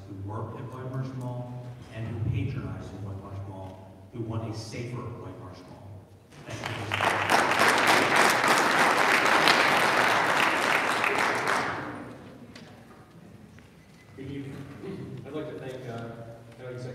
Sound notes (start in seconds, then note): 6.3 audience applauding